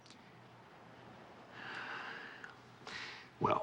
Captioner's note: sighs